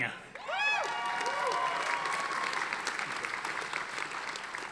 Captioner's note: audience applauding